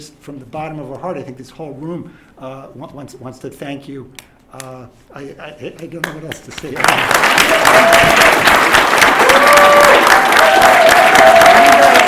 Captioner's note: applause